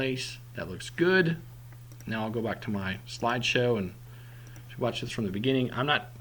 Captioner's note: click